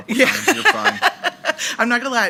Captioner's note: laughing